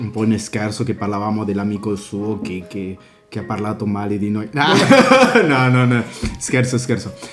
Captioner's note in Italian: risate